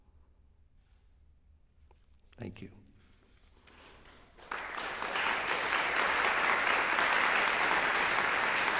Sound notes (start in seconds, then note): 4.3 applause